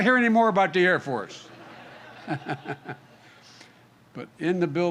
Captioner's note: laughter